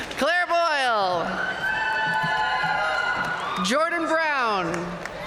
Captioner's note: audience cheering and applauding